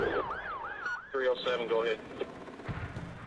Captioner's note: police chatter